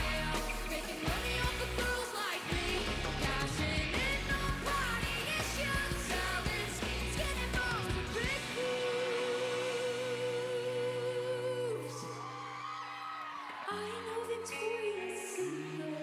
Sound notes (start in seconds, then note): 13.4 cheering